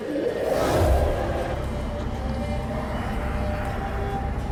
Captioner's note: rush of air